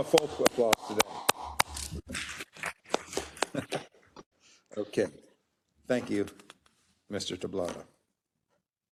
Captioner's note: applause